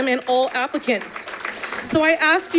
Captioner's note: audience applauding